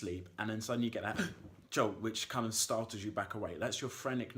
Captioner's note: gasping